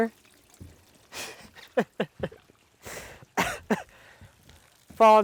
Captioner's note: laughs